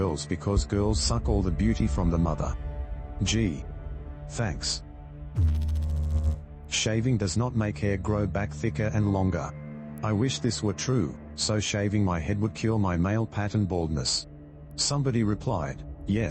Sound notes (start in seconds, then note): 5.3 electrical noise